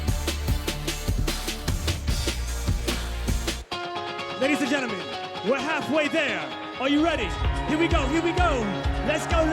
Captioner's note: cheers and applause